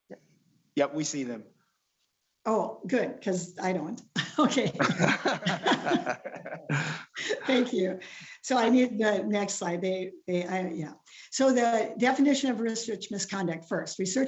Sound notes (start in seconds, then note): 4.2 laughs